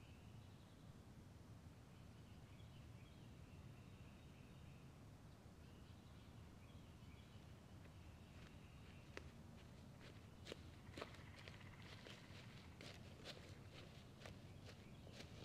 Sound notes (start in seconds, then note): 0.5 birds chirping; 8.5 leaves crunching